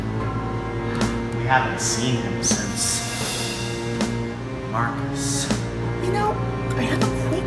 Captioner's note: sighs